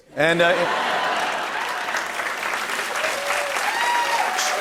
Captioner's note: laughter, applause